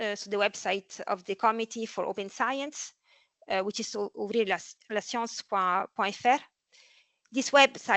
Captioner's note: French